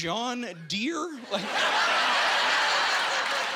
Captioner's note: laughing